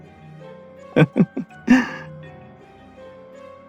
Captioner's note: laugh